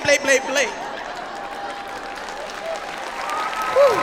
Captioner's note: audience laughing; audience applauding